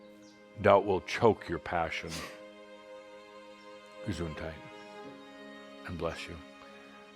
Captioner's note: someone sneezes